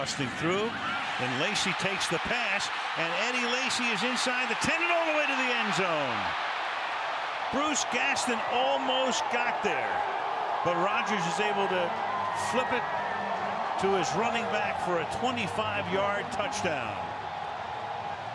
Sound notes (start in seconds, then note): 6.7 cheering